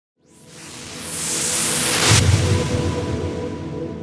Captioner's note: whooshing